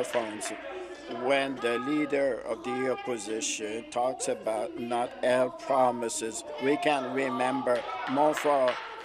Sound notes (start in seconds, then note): 2.5 applause